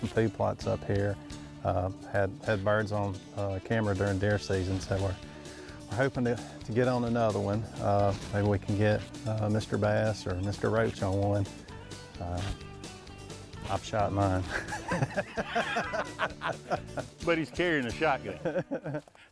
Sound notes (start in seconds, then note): 13.6 laughs